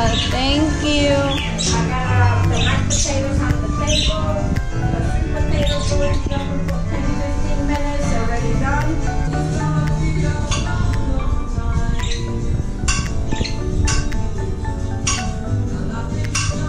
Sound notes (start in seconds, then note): 2.7 chattering; 5.3 birds chirping